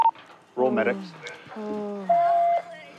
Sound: moaning; police radio chatter

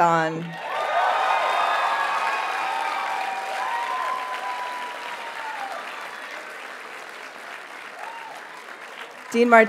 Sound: audience cheers and applauds

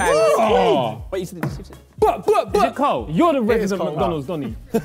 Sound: Simon makes high energy noises

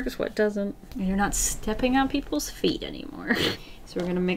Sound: short laugh

